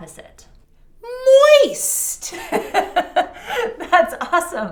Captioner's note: laughing